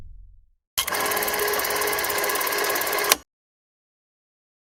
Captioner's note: technological music; film roll clicking